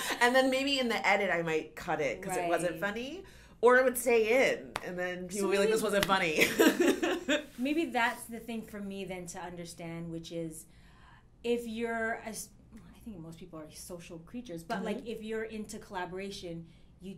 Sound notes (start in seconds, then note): 0.0 laughs; 7.2 laughs